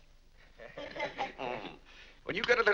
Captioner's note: family laughs